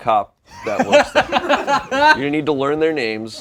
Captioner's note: laughter